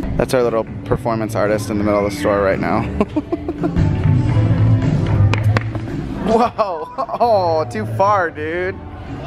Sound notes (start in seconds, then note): 2.8 laughing